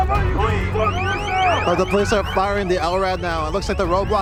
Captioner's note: high-pitched noise from LRAD